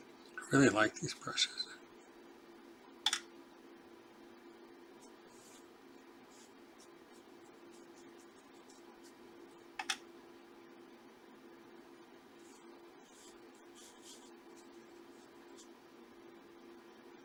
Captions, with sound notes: I really like these brushes. [silence]